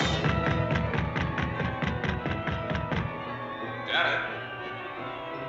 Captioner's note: suspenseful music continues; fist rapping